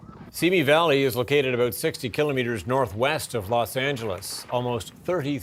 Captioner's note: sirens